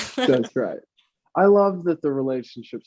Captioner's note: laughs